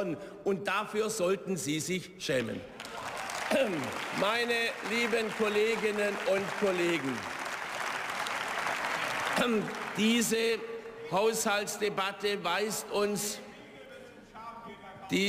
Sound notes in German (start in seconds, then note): 2.4 Beifall